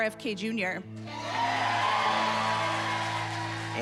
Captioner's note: cheering and applause